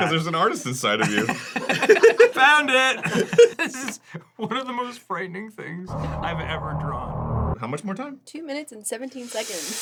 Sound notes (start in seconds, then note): 0.9 laughter